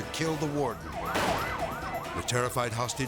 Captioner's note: siren wails; pistol bangs